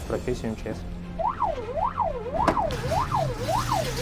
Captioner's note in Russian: вой сирены